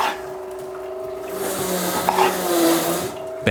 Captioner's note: whirring, sawing sounds